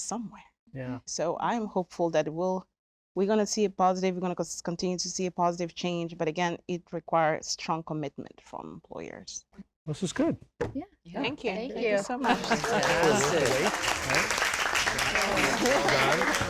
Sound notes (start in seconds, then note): 12.2 applause